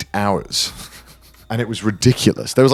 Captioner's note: laughing